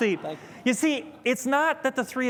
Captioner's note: laughter